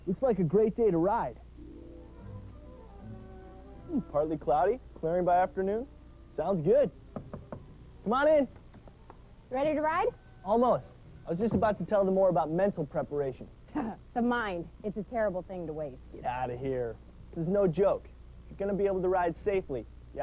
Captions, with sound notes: Looks like a great day to ride. Partly cloudy, clearing by afternoon. Sounds good. (door knocks) Come on in. - Ready to ride? - Almost, I was just about to tell them more about mental preparation. - The mind, it's a terrible thing to waste. - Get outta here. This is no joke. If you're going to be able to ride safely